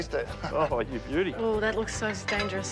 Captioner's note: laughs